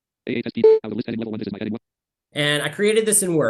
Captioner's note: screen reader narrating extremely rapidly